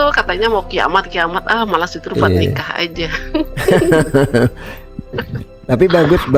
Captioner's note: tertawa